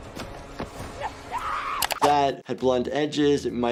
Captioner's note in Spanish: música dramática; persona gritando